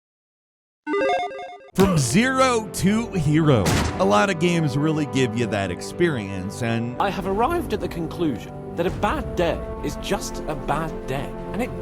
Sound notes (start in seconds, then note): 0.9 electronic bleeping; 3.6 gun blasting